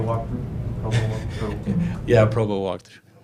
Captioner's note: player laughs